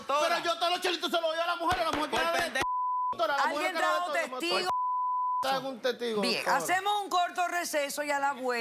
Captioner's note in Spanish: Bip